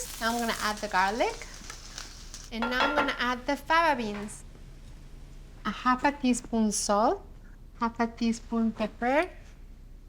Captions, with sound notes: Now I'm gonna add the garlic. [Sizzling] And now I'm gonna add the fava beans. A half a teaspoon salt, half a teaspoon pepper,